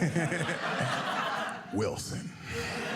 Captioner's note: audience laughing